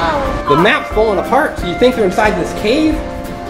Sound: voiceover

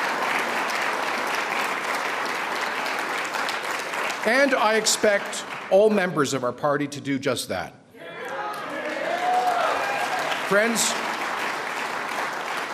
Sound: cheering

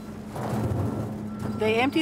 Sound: corn rumbling

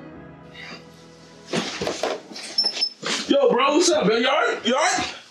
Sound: none

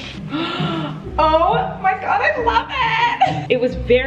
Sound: gasping

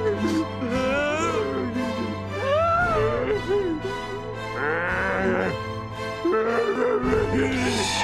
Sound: whimpering

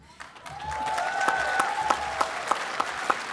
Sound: applause

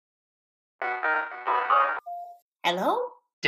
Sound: phone ringing

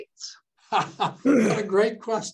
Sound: laughs

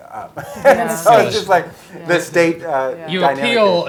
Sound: laugh

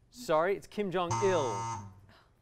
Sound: buzzer

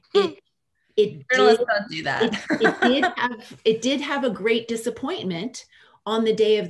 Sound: laughter

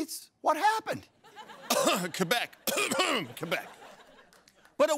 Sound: cough; coughcough

